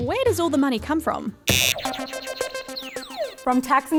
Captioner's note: buzzer